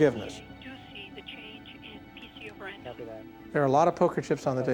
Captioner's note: murmurs